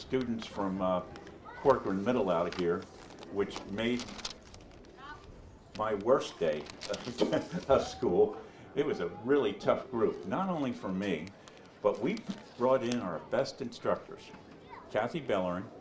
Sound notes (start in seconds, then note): 6.8 laughing